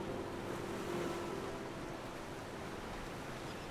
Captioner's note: sound of the waves of the ocean